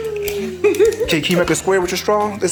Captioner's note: giggles